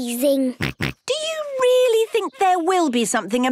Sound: snorts

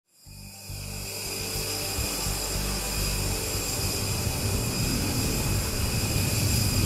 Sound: aircraft engine

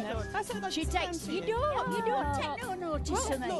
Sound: chattering

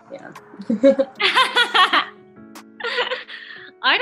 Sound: laughter

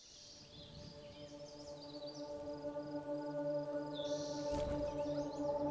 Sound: birds chirping

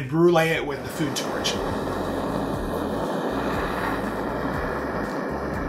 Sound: torch whooshing

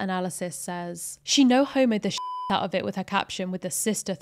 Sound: beep

